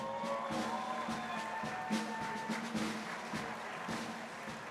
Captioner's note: crowd applauding